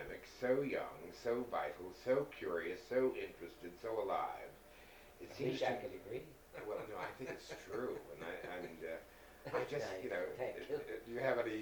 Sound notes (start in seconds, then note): 6.5 laughing